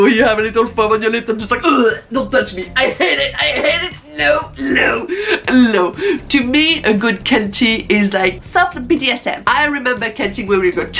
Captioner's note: fake retching